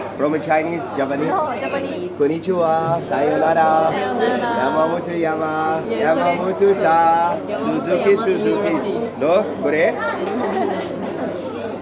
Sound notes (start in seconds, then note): 6.5 speaking Japanese